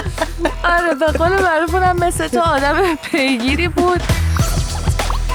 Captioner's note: laughs